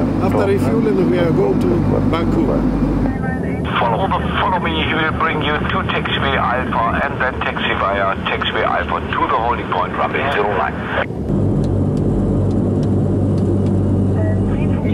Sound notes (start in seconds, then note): 3.6 speaking in foreign language; 11.4 plane engine roaring